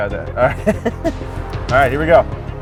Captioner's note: laughs